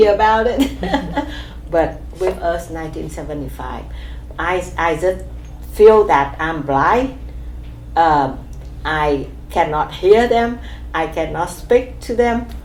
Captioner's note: laughs